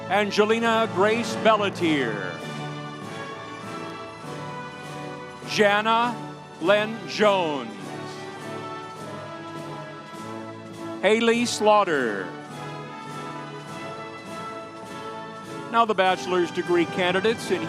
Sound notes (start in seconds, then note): 2.5 audience cheering; 8.0 audience applauding